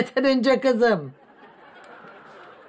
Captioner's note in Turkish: Gülme efekti